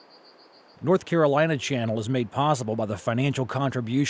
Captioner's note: voiceover